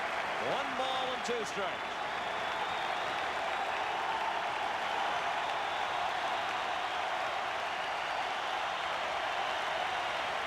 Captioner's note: applause; cheering and Applause